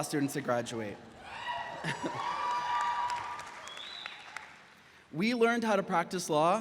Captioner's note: audience applauds